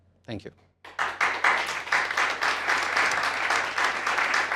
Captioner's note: applause